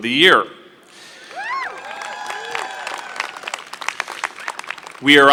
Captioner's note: applause